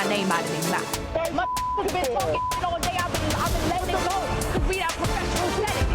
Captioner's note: beeps